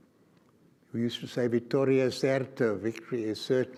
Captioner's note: speaks foreign language